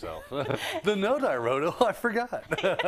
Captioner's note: laugh; laugh